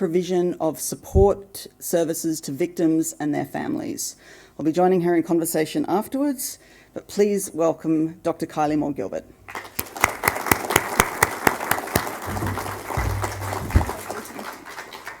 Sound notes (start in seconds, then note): 9.5 audience applauding